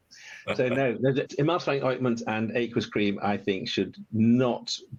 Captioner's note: laughing